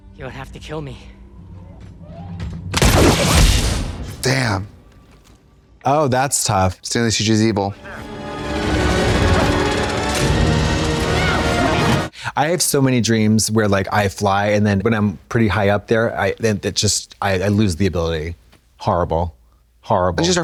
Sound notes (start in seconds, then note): 2.7 gun firing; 7.7 dramatic music